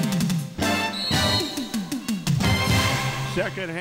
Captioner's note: whistle blaring